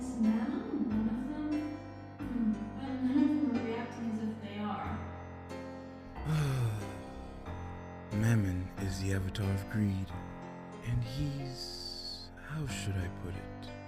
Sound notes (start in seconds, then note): 6.1 LUCIFER sighs